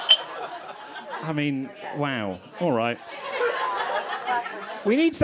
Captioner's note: crowd laughing